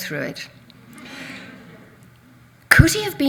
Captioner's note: audience laughs